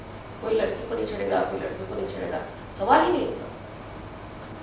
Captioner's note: hindi